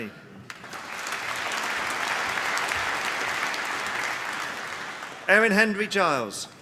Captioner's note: applause